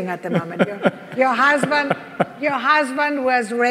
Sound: laughs

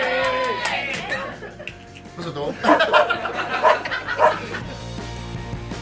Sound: haha

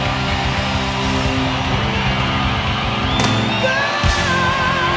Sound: audience cheering

